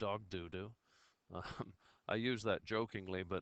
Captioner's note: laughs